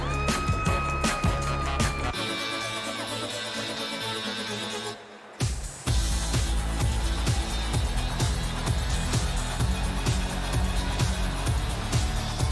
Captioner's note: cheers and applause